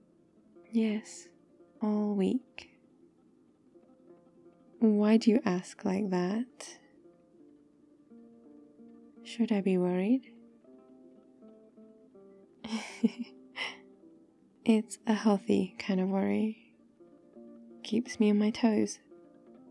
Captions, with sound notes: yes... all week why do you ask like that? should I be worried? *laughs* it's a healthy kind of worry keeps me on my toes